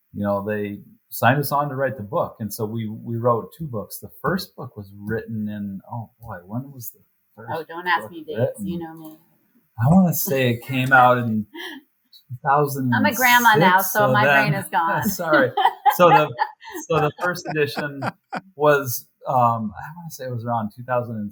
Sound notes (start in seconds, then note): 12.4 laughs